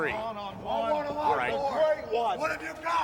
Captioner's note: wrestlers chattering